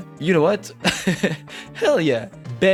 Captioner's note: giggles